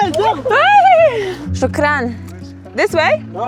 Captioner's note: loud sound of chattering in foreign language; both speaks in foreign language